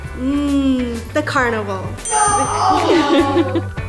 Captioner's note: scoreboard dings